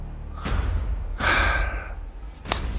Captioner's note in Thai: เสียงถอนหายใจ